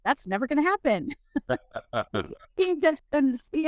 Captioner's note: laughs